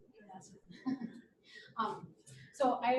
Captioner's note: woman speaking faintly